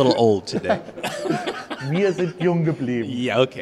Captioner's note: laughing